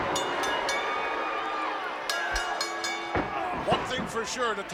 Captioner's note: crowd booing; bell ringing